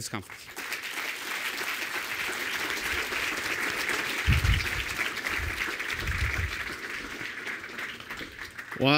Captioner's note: applause